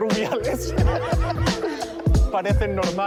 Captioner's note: laughs